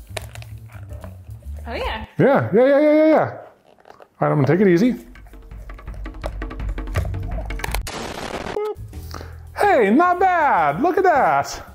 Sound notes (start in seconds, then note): 4.8 drums beat; 7.2 impact explodes